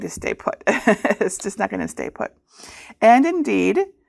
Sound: chuckles

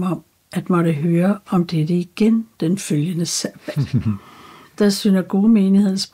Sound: laughs

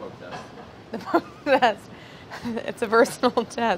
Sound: laughing

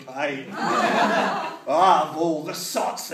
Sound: laughter

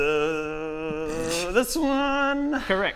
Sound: sniggering

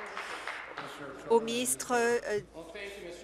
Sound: applause

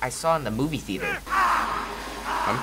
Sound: agonized screaming

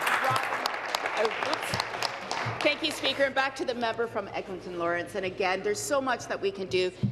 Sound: applause

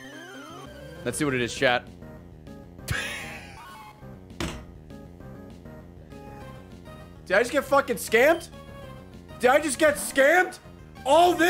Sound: laughs

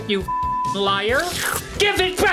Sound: shlorp

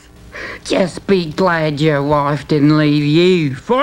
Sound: australian accent

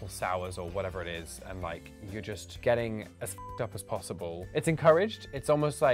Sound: beep

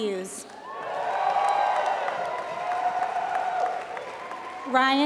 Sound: applause

